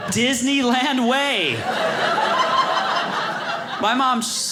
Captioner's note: audience laughing